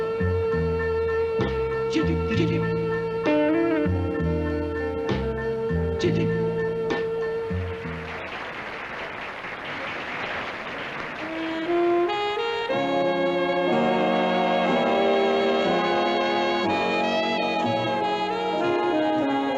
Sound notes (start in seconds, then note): 7.7 applause; 11.1 seductive jazz music